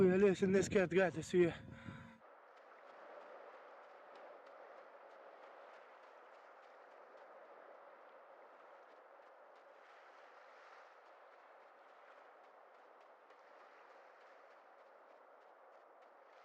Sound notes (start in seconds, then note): 3.3 distant waves crashing; 3.3 hurried footsteps pattering; 11.2 distant waves crashing; 11.2 hurried footsteps pattering